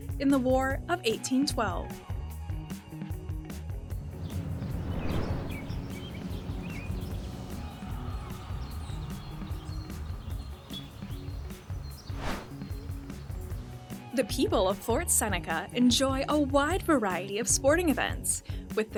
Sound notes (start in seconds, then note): 2.5 laid-back music continues; 4.1 birds chirping